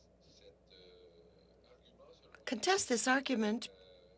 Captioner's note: speaking French